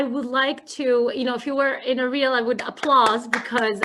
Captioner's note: clapping hands